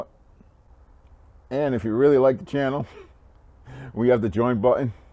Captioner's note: laughing